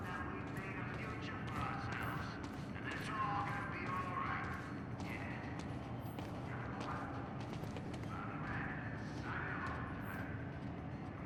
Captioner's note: on the radio